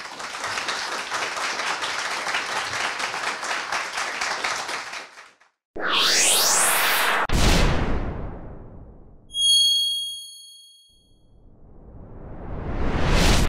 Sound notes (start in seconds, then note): 0.0 applause; 6.8 crash